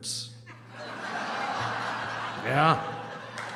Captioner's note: laughter